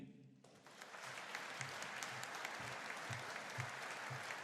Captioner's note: audience applauding